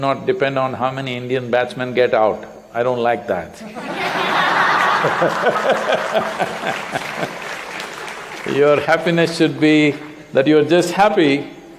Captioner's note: laughter